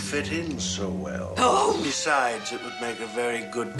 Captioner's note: exclaiming